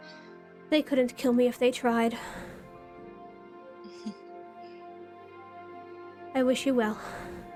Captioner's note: BEATRICE chuckles faintly